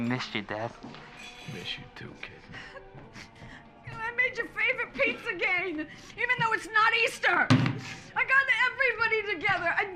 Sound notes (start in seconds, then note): 2.4 sobs